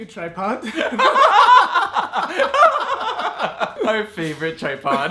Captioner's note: laughing hysterically